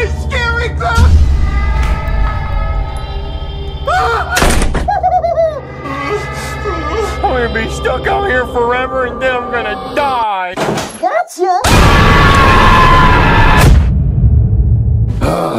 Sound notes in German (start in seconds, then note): 4.0 schreit; 4.8 lacht; 11.7 schreit